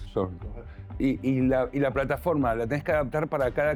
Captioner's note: Spanish